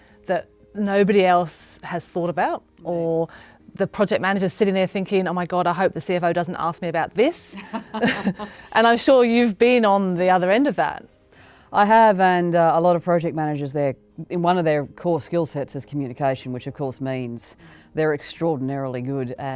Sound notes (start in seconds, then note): 7.6 laughing